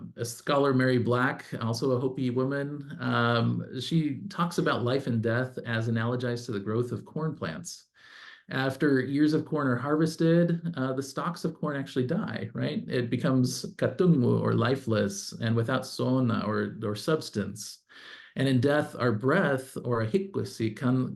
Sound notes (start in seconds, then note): 13.6 non-english speech